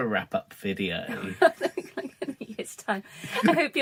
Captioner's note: laughing